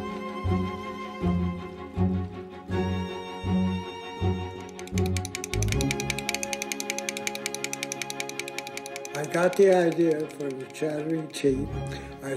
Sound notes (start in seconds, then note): 4.6 teeth chattering